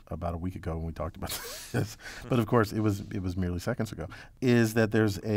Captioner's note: laugh